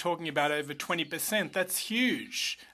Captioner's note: speaking French